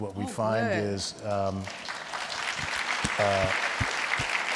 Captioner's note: everyone clapping